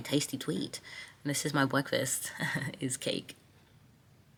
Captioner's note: laughs